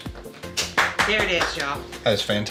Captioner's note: clapping